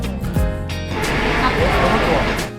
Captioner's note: sniff sniff